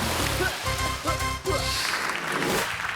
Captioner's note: splashes; upbeat instrumental music; upbeat music continues; chokes and coughs; crowd applauds; screen swooshes